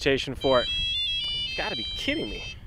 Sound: cellphone ringing

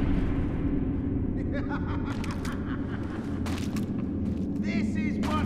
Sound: Patches laughing

